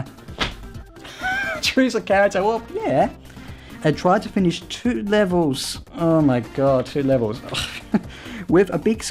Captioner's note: chuckles; chuckles